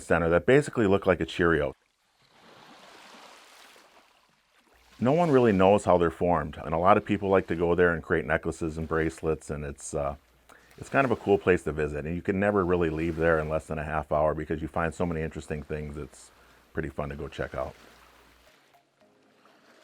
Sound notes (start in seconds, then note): 2.4 water swooshing